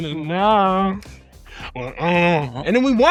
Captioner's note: hums